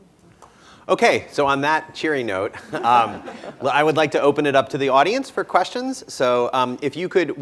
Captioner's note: laughter